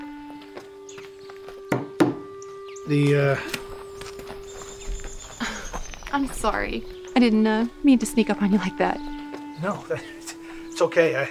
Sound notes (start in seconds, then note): 1.7 hammer thudding; 3.4 rocks crunching